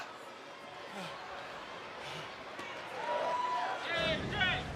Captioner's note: Styles panting